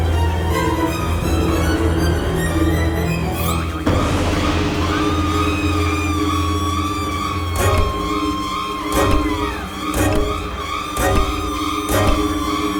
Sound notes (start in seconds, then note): 3.6 dramatic music; 3.6 victim shrieks; 7.6 bat thudding